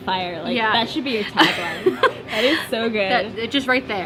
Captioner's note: laughter